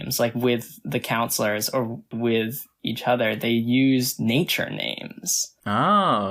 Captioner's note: none